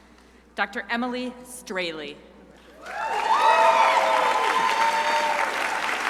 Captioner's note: crowd applauding